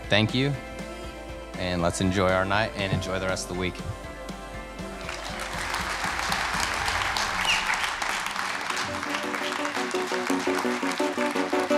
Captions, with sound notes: Thank you and let's enjoy our night and enjoy the rest of the week. (audience applauding) (upbeat music)